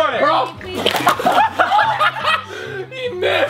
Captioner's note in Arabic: الجميع يضحك